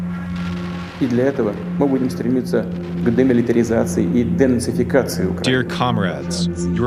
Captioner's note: speaks in Russian